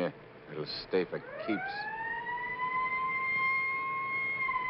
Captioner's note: siren wails